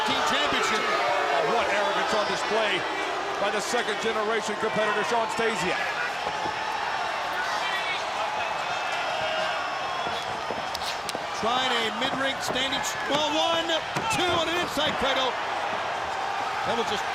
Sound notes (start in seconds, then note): 2.5 crowd chatter; 6.4 crowd chatter; 14.4 crowd cheering